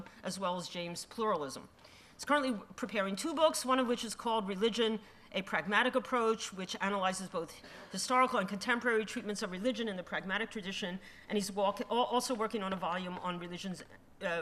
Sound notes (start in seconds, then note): none